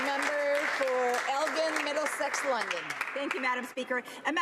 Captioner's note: some Applause